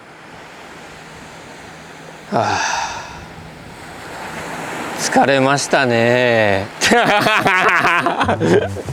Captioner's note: laughs